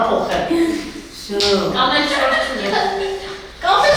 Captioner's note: laughing